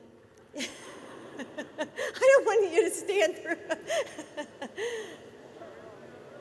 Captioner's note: laughter